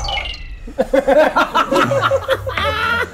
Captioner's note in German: Flirrende Musik; Lachen